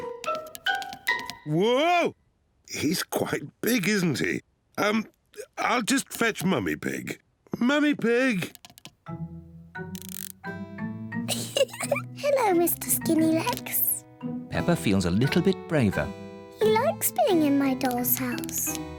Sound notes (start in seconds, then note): 11.3 laughs